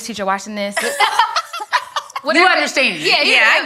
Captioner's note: ladies laughing